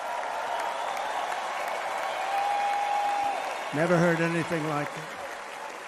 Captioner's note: applause